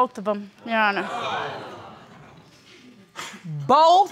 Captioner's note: audience gasping